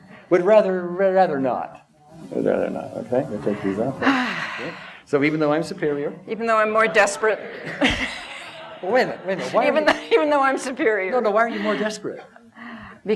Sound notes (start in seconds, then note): 4.0 sighs deeply; 7.6 laughter; 11.4 laughs